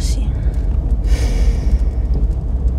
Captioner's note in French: soupir